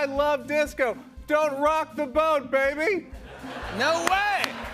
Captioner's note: laughter